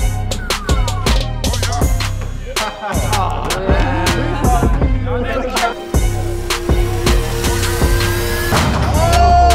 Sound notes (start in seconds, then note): 2.5 crowd chattering